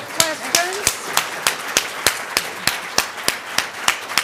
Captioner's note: applause